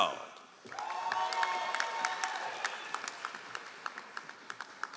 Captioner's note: all applauding